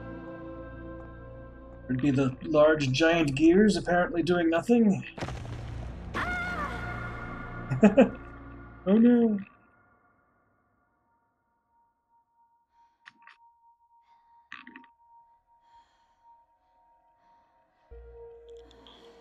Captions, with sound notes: Would it be the large, giant gears apparently doing nothing? [ground crumbling] Aaah! [chuckles] Oh no!